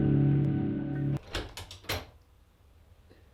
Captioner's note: click